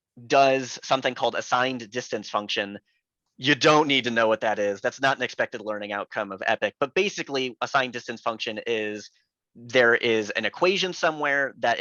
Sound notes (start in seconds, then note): none